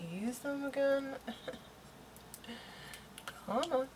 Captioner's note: laughs